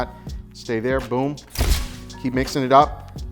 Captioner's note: shutter clicks